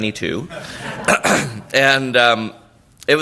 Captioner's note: laughter